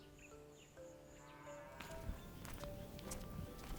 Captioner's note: Beuglement d’une vache